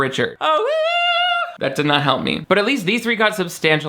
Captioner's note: vocalizes